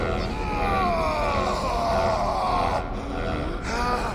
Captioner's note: Basim gasping; tense uneasy music; Basim yelling